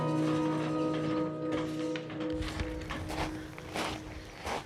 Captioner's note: footsteps crunching